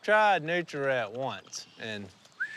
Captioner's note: whistles